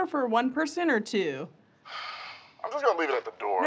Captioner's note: sighs